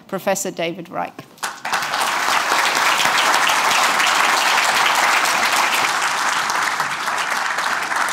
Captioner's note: applause